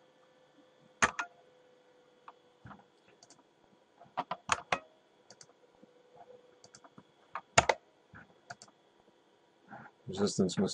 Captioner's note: typing